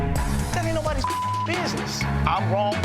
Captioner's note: beep